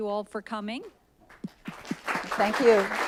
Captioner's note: applause